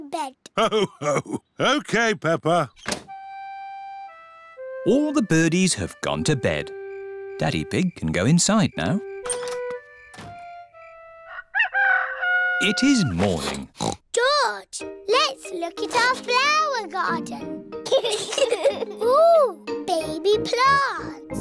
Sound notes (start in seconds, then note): 10.8 rooster crowing; 13.3 oinks; 17.8 both giggling